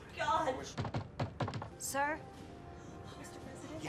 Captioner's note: knocks on door